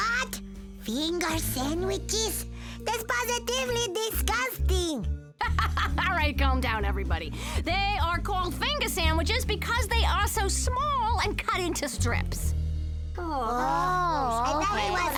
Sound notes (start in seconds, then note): 2.6 laughs